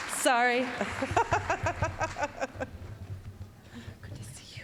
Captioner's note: applause; laughing